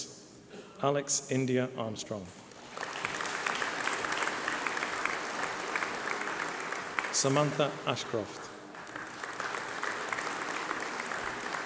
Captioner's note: applause